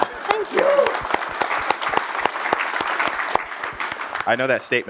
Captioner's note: applause